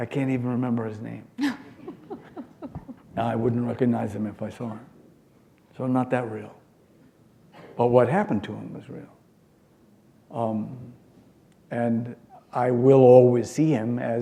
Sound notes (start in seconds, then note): 1.4 laughter